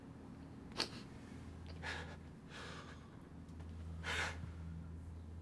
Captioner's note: Addison softly sobs